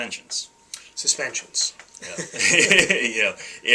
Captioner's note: laughs